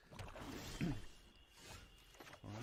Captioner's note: nervous cough